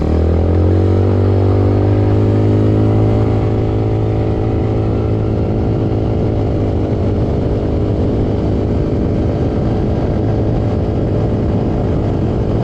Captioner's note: engine sounds from ATV